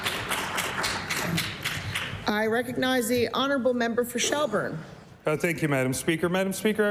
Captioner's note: applause